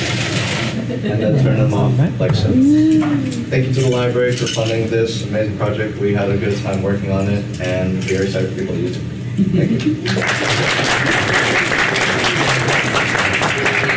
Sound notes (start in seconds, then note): 10.0 applause